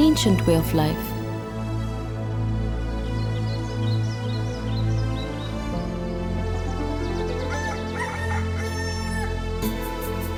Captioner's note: soothing music; birds chirpping